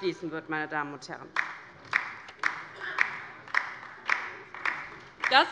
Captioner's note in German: Beifall bei der LINKEN